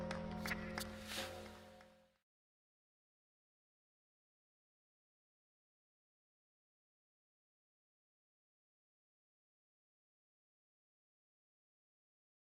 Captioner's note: applause